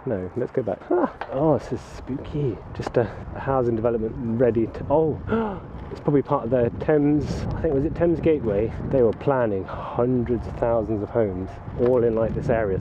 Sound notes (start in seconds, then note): 5.2 inhales